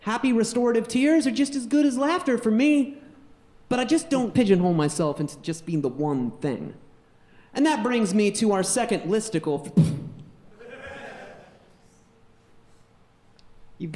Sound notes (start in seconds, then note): 10.2 puffs; 10.5 audience laughing